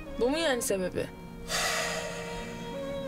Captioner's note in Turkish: Demir iç çekiyor